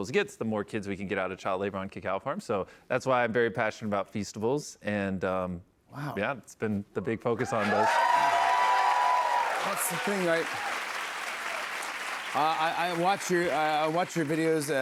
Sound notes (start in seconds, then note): 7.4 cheers and applause